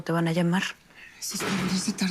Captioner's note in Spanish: Portazo